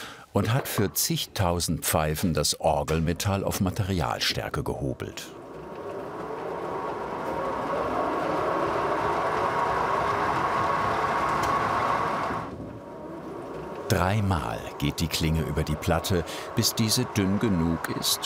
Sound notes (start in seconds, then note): 5.5 howling whirring